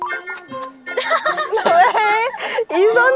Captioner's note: hmm